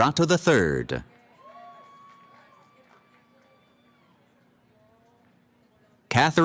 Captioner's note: cheering